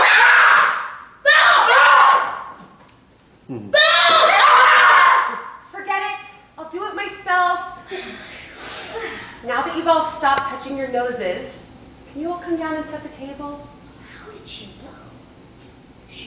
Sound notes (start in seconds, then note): 8.5 sighs of relief